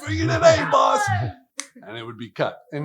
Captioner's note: group laughs